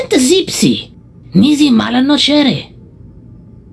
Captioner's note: none